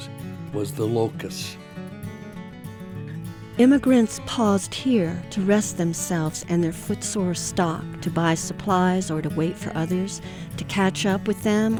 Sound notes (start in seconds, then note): 4.9 voiceover